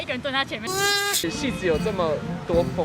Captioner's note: sloth noises galore